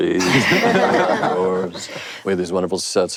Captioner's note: panel laughs